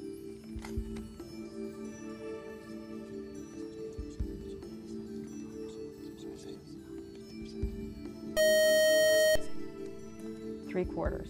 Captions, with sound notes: (beeping) Three-quarters.